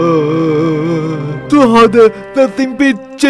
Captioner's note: sob